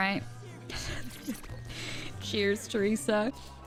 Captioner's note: laughing